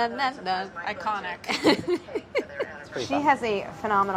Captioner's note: sings theme tune; laughs